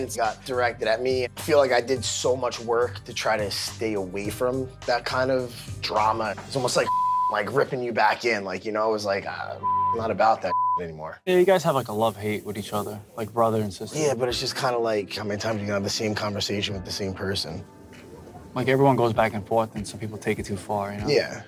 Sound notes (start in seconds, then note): 6.8 beep; 9.6 beep